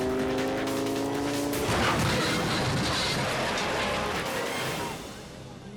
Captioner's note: engine roars; motorcycle clashes